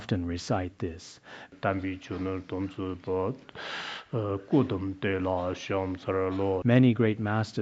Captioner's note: citing scripture in Tibetan